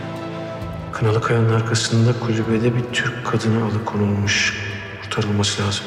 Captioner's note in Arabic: صوت عزيز الداخلي